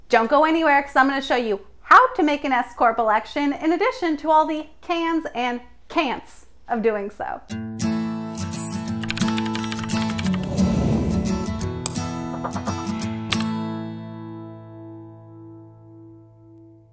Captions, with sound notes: Don't go anywhere, 'cause I'm gonna show you how to make an S Corp election, in addition to all the cans and can'ts of doing so. (uplifting music) (keyboard clicks) (cursor whooshes) (mouse clicks) (title whooshes) (mouse clicks)